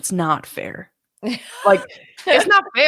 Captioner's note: laughs